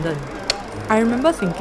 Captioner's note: click